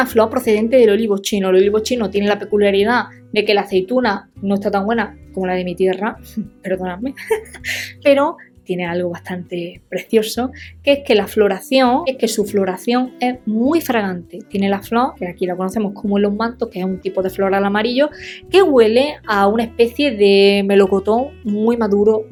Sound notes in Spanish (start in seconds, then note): 7.2 risas